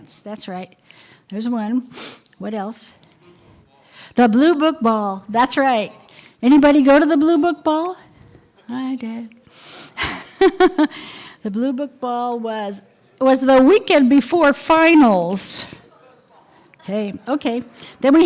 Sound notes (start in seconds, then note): 10.0 laughter